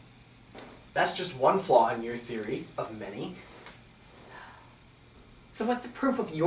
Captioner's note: Francis sighs